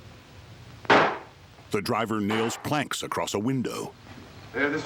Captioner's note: hammering